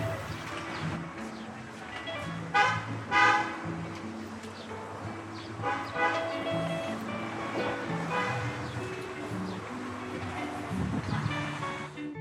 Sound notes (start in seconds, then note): 0.8 bright music; 2.0 car horns honking